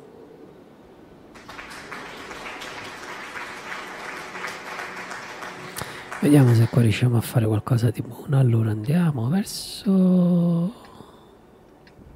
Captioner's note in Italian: Applauso